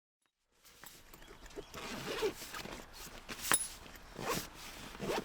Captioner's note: metal clicks and a backpack zipping